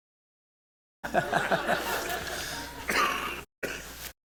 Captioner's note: laughter